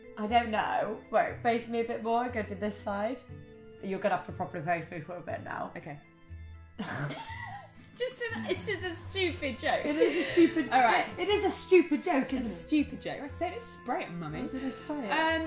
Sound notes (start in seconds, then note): 6.8 turns away, both laughs